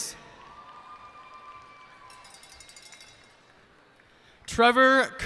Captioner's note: cheers and applause